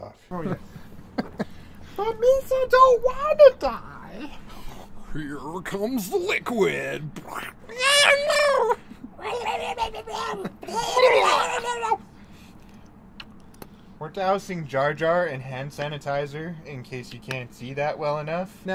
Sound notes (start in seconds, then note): 0.4 laughter; 6.4 gooey sound effects; 7.2 gurgling; 9.1 more gurgling